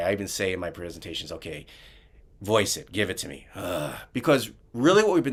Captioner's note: imitates groan